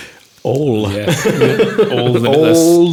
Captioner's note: laughing